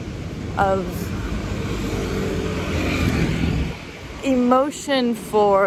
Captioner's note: vehicles pass